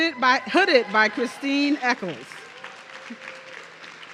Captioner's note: audience cheering